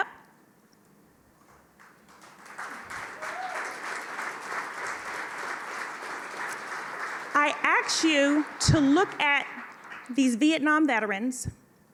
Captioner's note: applause